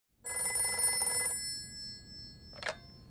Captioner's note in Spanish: ring ring